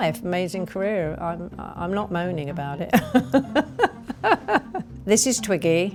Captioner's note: laughs